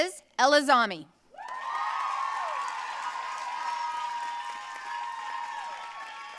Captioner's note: audience cheering and applauding